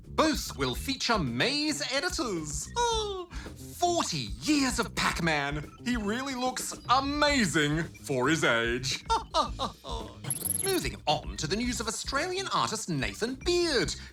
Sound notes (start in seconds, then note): 8.8 chuckles